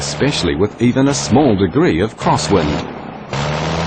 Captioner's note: plane sounds